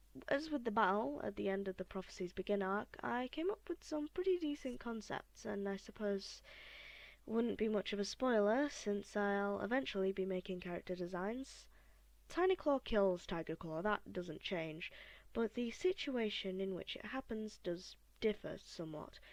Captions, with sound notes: As with the battle at the end of The Prophecies Begin Arc I came up with some pretty decent concepts, and I suppose (big breath??) wouldn’t be much of a spoiler since I’ll eventually be making character designs. Tinyclaw still kills Tigerclaw, that doesn’t change, but the situation in which it happens does differ somewhat